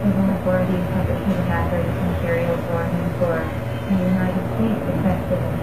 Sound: emergency broadcast playing

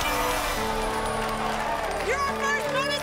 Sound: cheering

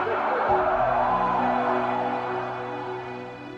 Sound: crowd cheering; dramatic piano music

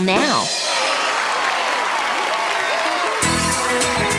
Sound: crowd cheering

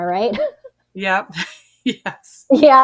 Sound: laughs

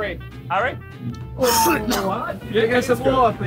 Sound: coughs

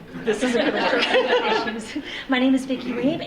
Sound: audience laughing

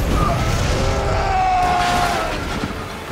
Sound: screaming

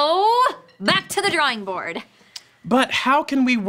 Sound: clattering

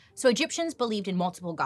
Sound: none

